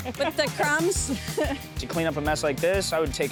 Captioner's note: laughing